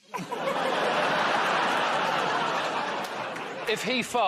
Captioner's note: laughter